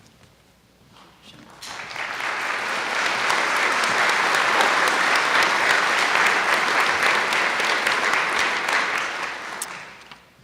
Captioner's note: applause